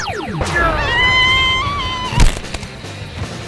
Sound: screaming one last time

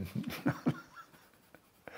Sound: he chuckles

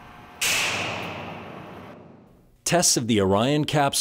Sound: bang of gun firing

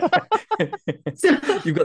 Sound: laughter

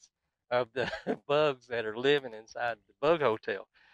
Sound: chuckles

